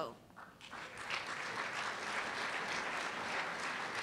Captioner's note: applause